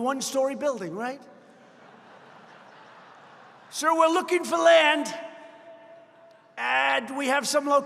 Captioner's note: laughter